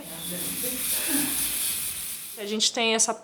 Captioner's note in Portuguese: spray esguichando